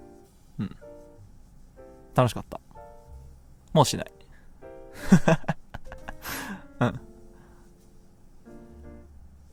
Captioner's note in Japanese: 笑い